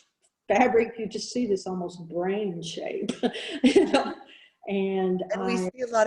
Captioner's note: laughing